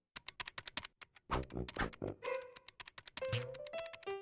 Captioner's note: keyboard clacking